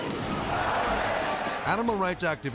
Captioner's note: crowd shouting